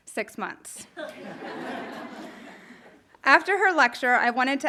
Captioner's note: audience laughing